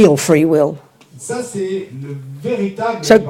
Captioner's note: speaking in French